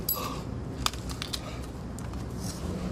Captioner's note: heavy breathing